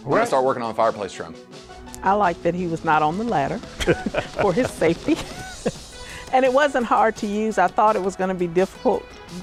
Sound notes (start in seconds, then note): 3.7 laughs